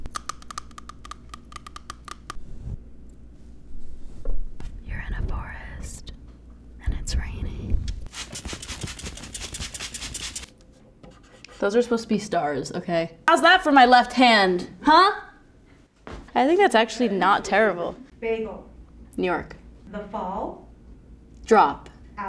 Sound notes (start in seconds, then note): 0.2 tapping on phone; 2.4 brush sounds on microphone; 7.8 bottle hissing